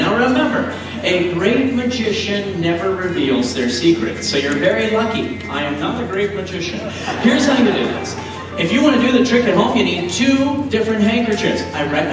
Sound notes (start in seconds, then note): 6.7 audience laughs